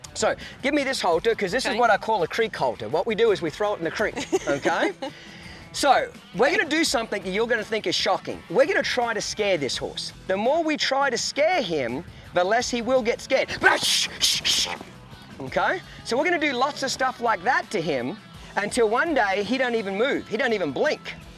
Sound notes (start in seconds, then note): 4.0 laughs; 13.5 hisses